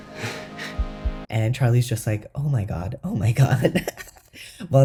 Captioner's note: laugh